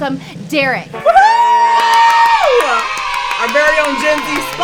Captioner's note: cheer